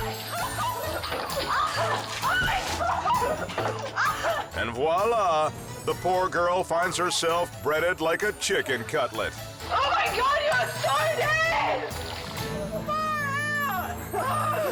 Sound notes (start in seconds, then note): 0.1 whimsical music; 2.5 girlfriend laughing; 12.0 whimsical music continues